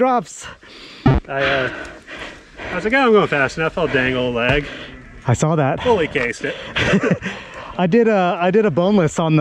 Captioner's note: laughter